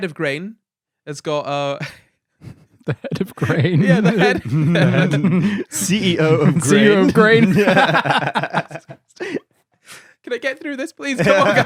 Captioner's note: laughing